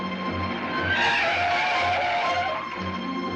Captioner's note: tires screeching